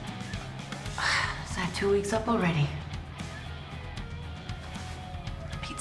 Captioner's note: sighs